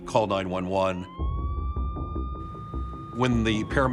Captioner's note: siren wailing